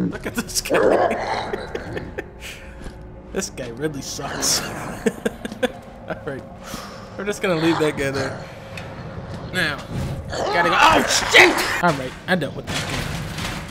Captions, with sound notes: Look at this guy. (Chuckling) This guy really sucks. (Chuckling) Alright... We're just gonna leave that guy there. Now... Gotta- OH, SHIT! Alright, I dealt with that guy.